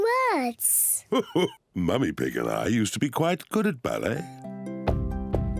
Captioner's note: laughs